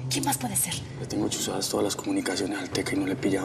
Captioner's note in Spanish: none